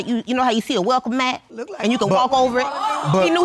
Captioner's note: audience gasp